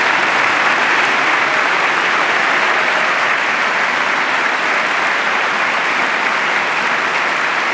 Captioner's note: applause